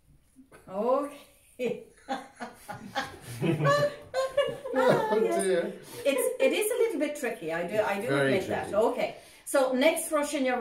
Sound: laughing

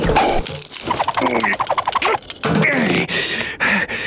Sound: grunting

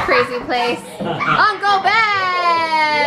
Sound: chuckles

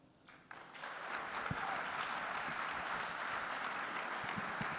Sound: audience applauding

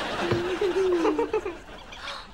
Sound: laughing

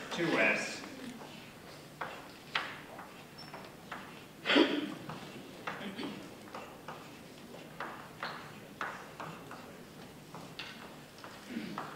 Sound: writing

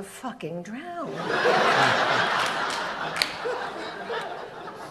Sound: audience laughs

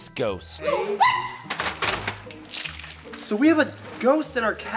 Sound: Chips ghost shrieks

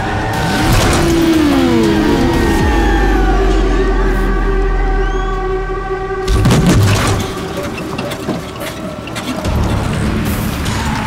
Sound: crowd Cheering

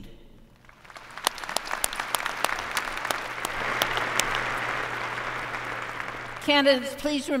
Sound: applause

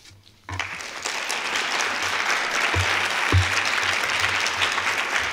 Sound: applause

